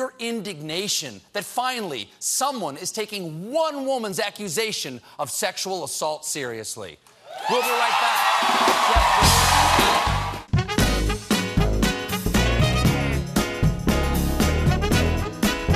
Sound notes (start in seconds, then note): 7.2 cheers and applause; 10.1 band playing; 10.1 cheers and applause